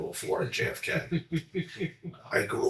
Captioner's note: laughs